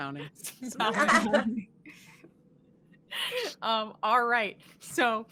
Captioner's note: chuckling